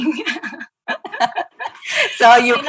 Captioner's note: laughing